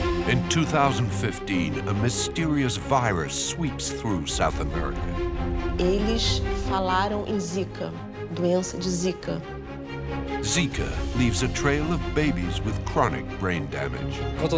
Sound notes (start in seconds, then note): 5.9 woman speaks in foreign language